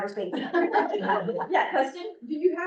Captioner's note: laughter